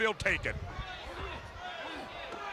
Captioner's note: crowd chatter